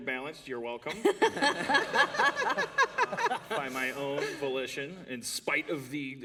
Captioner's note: laughter